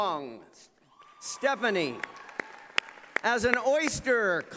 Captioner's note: applause